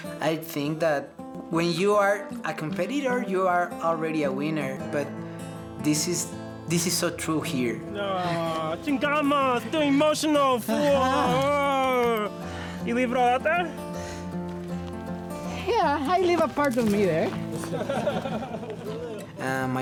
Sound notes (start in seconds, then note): 8.9 speaks Spanish; 17.8 participants laugh